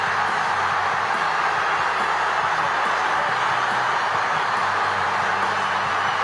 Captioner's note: crowd cheering